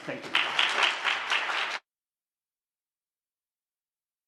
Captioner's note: applause